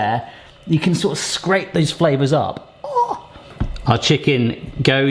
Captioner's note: gasps in delight